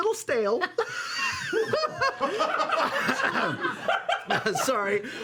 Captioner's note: laughter